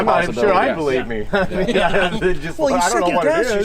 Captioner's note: laughing